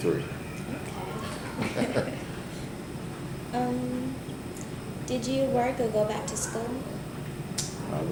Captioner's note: chuckles; both laugh